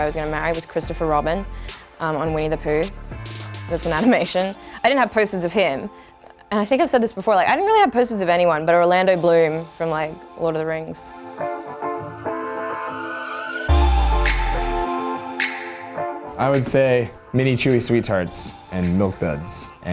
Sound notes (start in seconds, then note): 3.8 laughs; 11.5 upbeat pop music